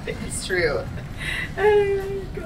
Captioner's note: laughs